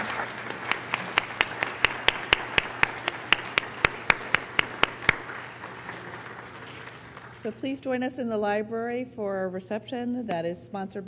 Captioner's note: applause